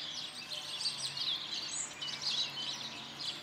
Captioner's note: birds chirping